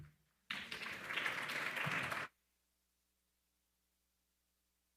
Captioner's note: attendees applauding